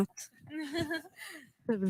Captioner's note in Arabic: ضحك